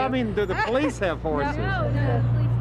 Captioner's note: laughing